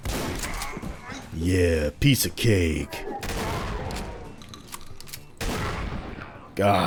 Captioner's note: duke nukem voice